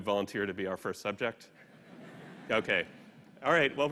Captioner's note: laughter